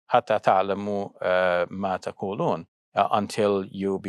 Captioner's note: speaks in foreign language